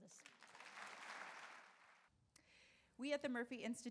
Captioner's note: audience applauds